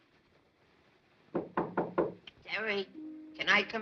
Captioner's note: knocking at door